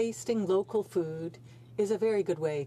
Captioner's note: speaking French